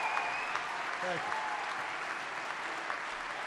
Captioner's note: applause